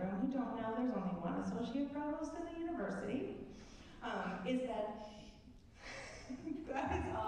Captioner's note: laugh at inaudible comment from off stage